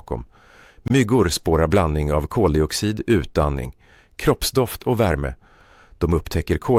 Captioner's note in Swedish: utandning